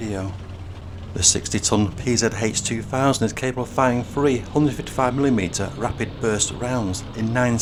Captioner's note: burst